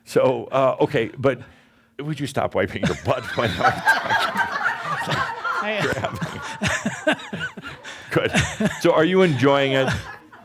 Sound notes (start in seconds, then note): 5.3 laughter